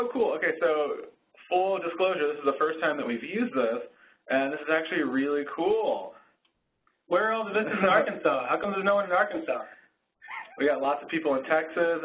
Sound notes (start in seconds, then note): 7.1 voiceover; 10.7 voiceover